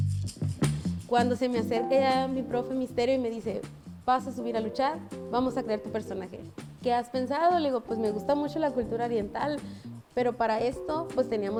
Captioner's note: speaking Spanish